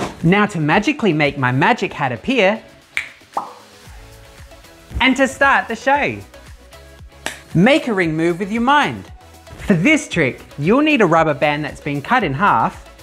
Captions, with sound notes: Now to magically make my magic hat appear ... *click* *pop* ...and to start the show! Make a ring move with your mind! For this trick, you'll need a rubber band that's been cut in half ...